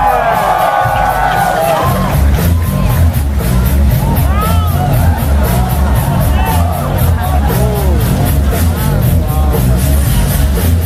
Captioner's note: clap